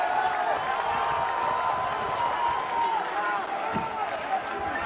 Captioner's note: cheering